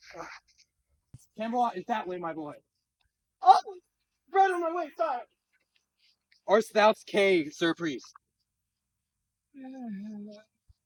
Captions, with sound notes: Camelot is that way, my boy. (Bandit 2: surprised yelp) Art thoust kay, Sir priest?